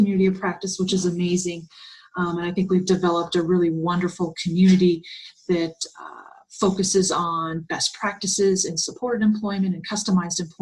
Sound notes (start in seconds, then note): 3.0 Arabic; 7.6 Vietnamese